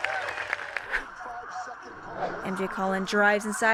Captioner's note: applause